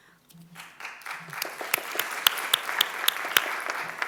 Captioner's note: applause